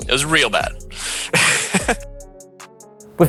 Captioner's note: chuckling